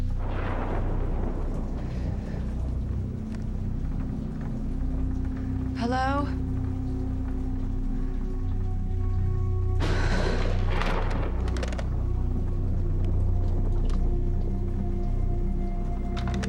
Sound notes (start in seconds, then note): 0.0 thunder rumbles; 9.2 thunder rumbles; 13.3 soft ominous music